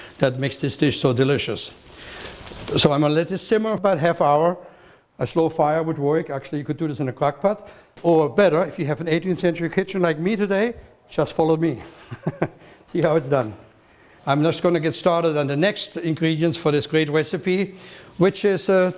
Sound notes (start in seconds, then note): 11.9 chuckles